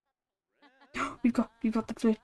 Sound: gasp

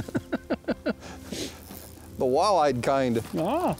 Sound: laughs

